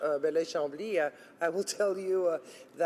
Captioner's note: speaking French